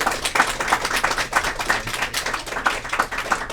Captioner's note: applause